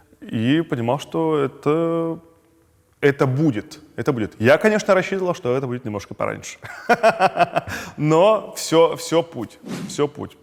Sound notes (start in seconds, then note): 6.8 laughs